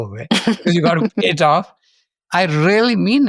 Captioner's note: laughs